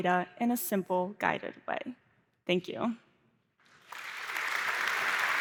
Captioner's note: applause